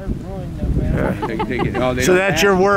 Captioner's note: laughing